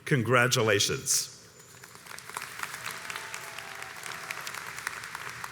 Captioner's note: audience applauds